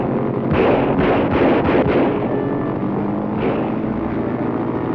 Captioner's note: gunshot reporting